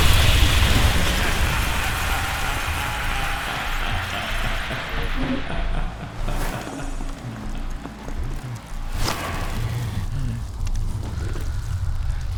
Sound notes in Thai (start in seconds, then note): 2.0 เสียงหัวเราะอันชั่วร้าย